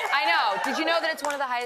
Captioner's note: cheers and applause